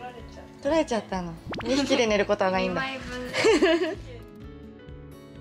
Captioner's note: laughs